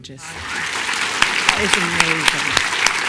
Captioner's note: applause